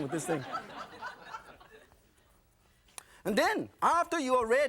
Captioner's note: audience laughing